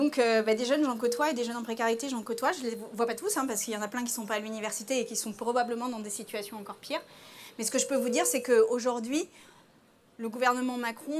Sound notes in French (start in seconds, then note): none